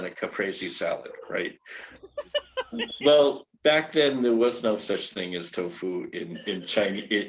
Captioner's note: laughing in background